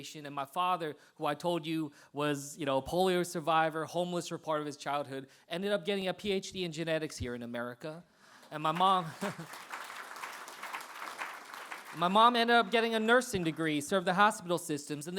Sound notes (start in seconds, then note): 8.4 applause